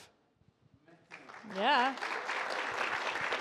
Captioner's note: audience applauds